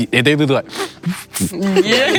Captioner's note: sobs lightly; crowd laughing